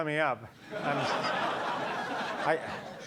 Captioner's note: audience laughing